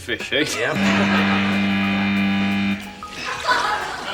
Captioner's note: buzzer; laughter